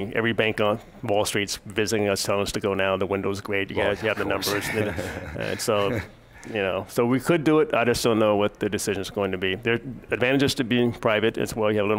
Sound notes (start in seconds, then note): 3.8 laugh